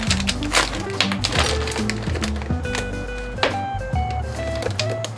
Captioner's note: the water splashed